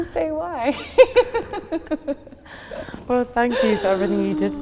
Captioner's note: both laughing